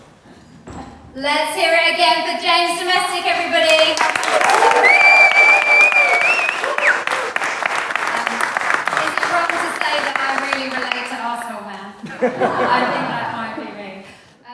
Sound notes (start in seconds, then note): 8.3 clapping & whooping; 12.0 laughter